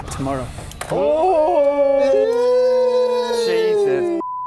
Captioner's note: communal excited "Oooohhh!"ing